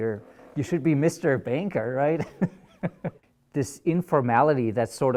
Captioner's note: laughs